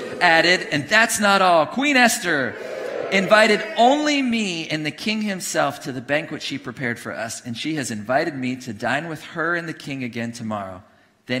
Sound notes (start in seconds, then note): 0.0 congregation cheering